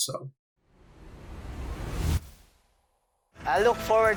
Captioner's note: whooshing sound